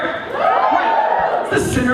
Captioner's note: cheering